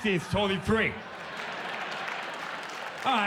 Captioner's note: audience applauds